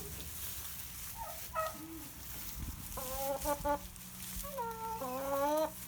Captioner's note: chickens vocalizing